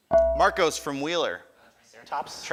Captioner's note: ding